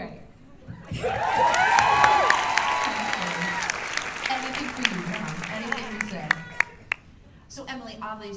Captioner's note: cheers and applause